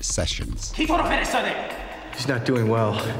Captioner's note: non-english speech